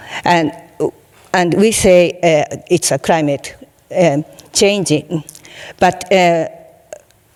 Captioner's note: none